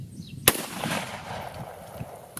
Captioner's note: gun fires